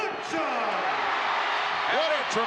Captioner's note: audience cheering